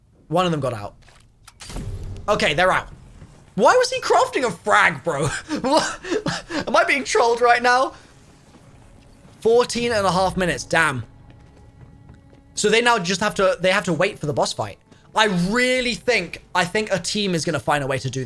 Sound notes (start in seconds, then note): 5.1 chuckles